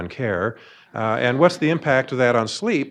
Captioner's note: audience laughing